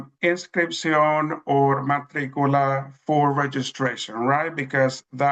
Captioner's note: speaks in Spanish